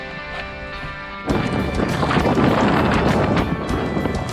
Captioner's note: intense wind